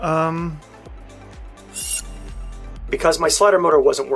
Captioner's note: scraping sound